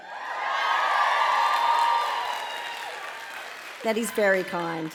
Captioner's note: audience cheering and applauding